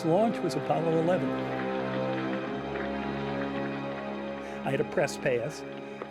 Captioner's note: applause